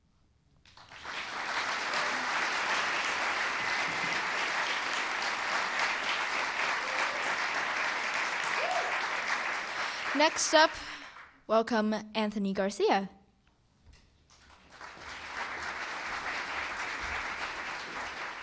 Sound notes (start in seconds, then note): 4.7 applause